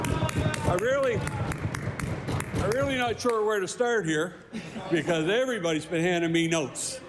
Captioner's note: applause